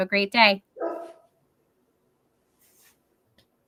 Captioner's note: dog barking